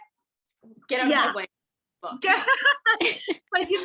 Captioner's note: laughing